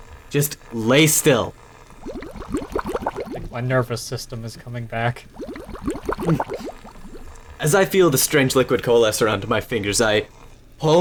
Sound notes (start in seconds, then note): 1.5 bubbling